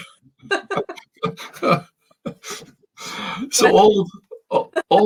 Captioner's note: both laughing